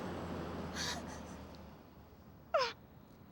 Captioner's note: sobbing